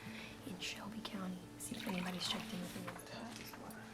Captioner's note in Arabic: سكب القهوة